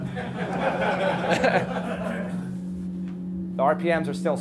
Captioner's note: class laughing